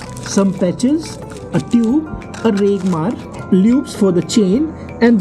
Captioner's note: sandpaper